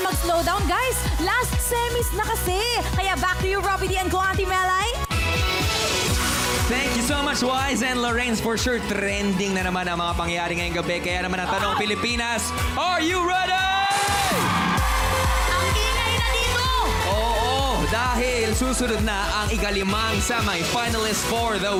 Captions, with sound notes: No slowing down! It's the last night of the live semifinals! Back to you, Robi and Melai! [THEME MUSIC PLAYING] Thank you so much, Wize and Lorraine! For sure, tonight's happenings will land on the trend list! - My god! - So, Philippines... Are you ready? [AUDIENCE CHEERING LOUDLY] It's so loud in here! That's because the fifth semifinalist for the week